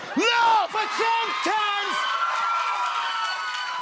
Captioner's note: cheers and applause